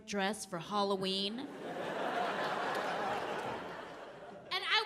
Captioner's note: audience laughing